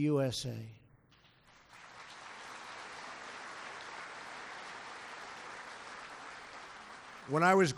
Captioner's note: applause